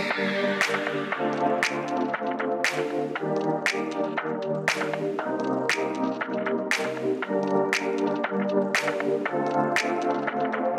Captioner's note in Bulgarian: Аплодисменти